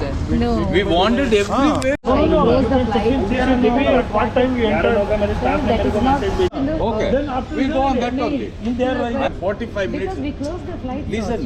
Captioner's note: chatter continues